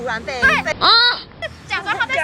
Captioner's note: sloth noises